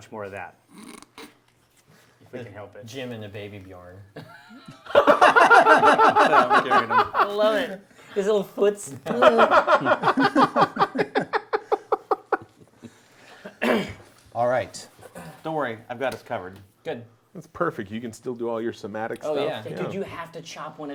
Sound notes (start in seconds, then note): 4.2 group laughs